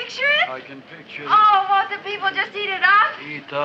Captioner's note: none